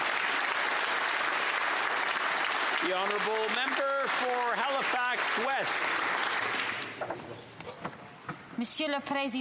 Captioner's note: some Applause